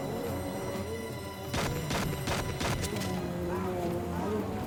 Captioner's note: gun fires